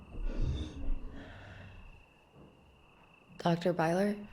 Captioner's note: object creaking